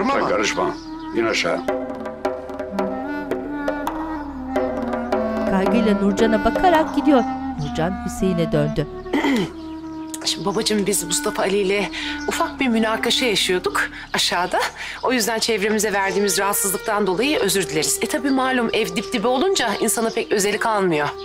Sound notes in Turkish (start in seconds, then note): 2.0 Kuş cıvıltısı sesleri; 9.1 Boğaz temizleme sesi